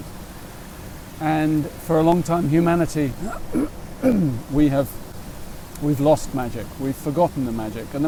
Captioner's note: clears his throat